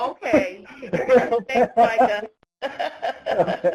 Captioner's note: laughter